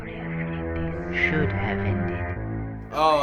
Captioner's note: ominous whispering; voice-over